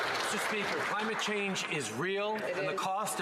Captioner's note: some Applause